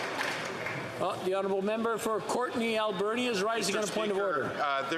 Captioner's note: applause